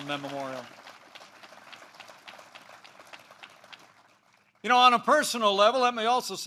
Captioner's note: applause